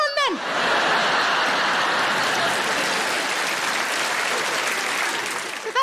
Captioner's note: audience laughing and applauding